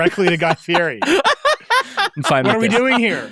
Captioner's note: laughing